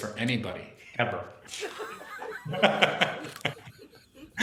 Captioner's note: laughter